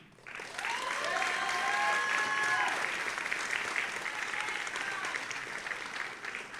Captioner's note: audience applauding and cheering